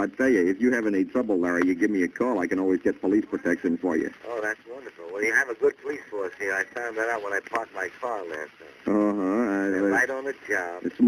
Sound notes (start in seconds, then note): 4.4 on phone; 9.1 on phone